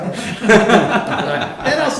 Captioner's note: laughter